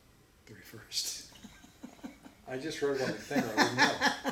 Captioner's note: laughing